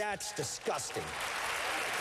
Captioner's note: applause